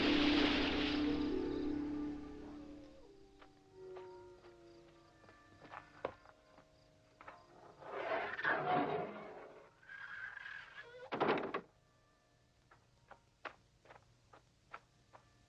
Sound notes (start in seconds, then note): 2.9 wolves howling